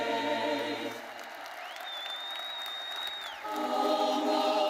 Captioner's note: attendees applauding